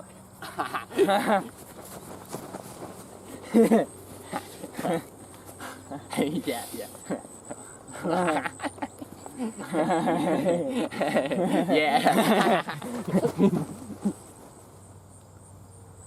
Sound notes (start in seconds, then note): 0.9 cackle; 7.9 giggling meniacally